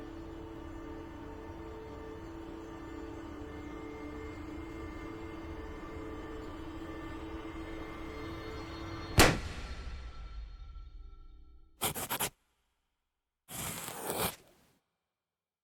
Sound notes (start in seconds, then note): 9.0 balloon popping; 11.8 pencil furiously scratching on paper